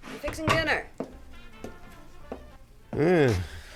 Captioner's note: footsteps approaching